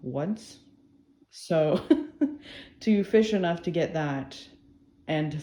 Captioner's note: laughs